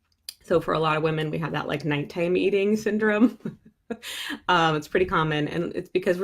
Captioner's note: chuckling